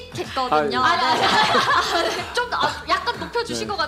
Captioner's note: laughter